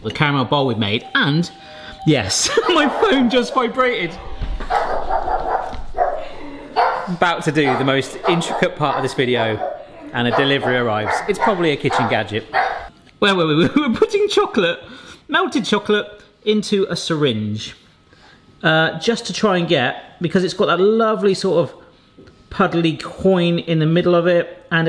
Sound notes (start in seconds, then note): 2.4 laughs; 5.1 dog barking